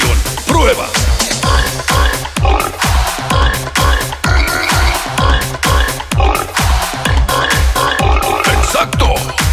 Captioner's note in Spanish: Sonido de cerdo